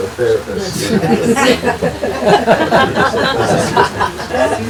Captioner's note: group laughing